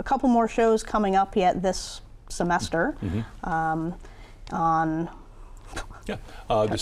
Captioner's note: laughs